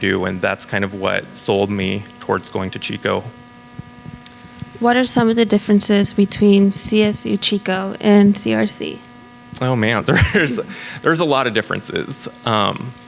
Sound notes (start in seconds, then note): 10.0 laughs